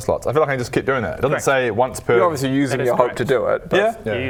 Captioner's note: none